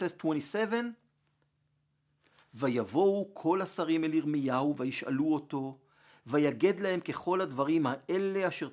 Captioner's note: Hebrew